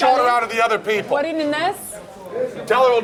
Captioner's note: non-english speech